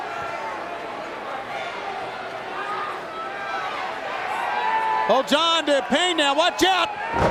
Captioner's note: crowd chatter